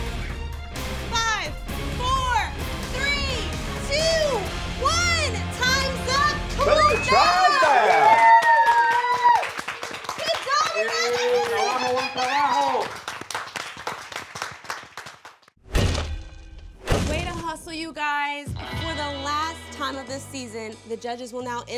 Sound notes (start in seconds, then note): 0.0 dramatic music; 6.6 cheering; 8.0 judges clapping